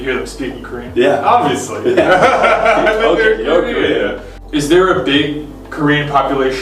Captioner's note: both laugh